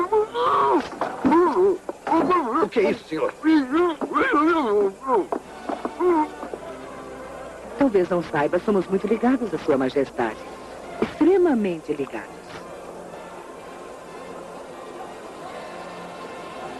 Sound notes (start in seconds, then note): 0.1 muffled shouting; 3.6 shouting continues